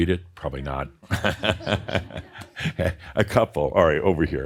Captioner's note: chuckles